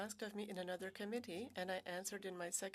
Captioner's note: speaking French